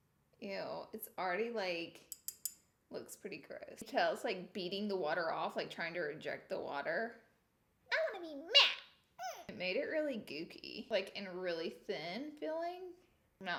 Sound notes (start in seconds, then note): 8.0 high-pitched mocking voice